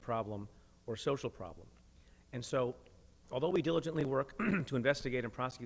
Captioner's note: clears throat